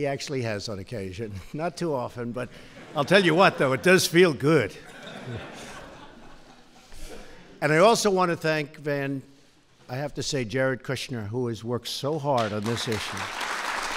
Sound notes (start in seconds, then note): 3.0 laughter; 12.2 applause